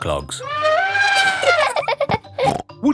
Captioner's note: trumpeting; laughing